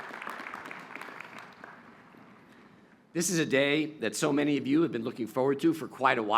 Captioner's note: cheers and applause